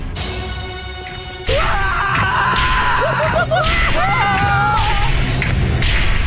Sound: screaming

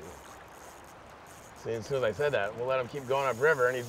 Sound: reel spinning

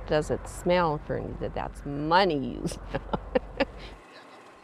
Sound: laughs

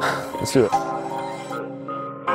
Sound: exhales

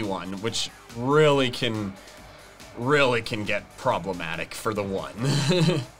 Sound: chuckles

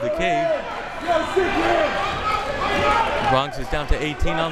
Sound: crowd members shouting

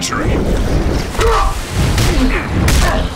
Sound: fighting grunts and impacts

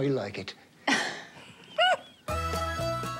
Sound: laughs

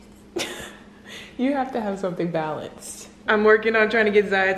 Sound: laughs

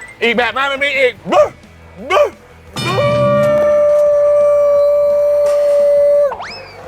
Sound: howling

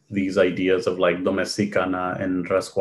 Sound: foreign language

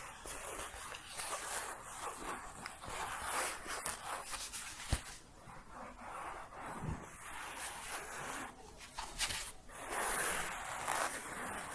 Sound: circular scratching and shuffling

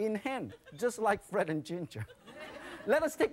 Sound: laughter; crowd

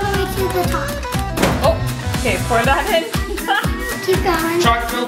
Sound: laughs

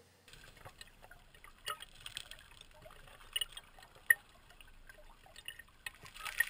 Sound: water flowing

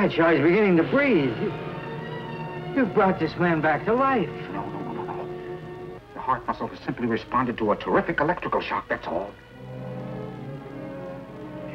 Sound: electricity buzzing

